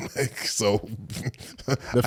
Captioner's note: Eric sighs; Eric laughs